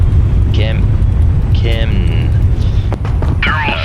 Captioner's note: russian Accent